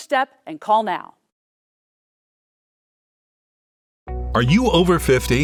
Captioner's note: silence